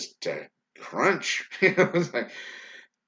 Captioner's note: laughs loudly